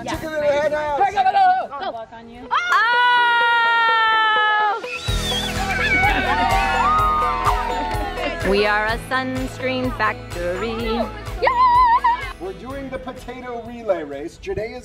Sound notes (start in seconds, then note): 5.0 cheering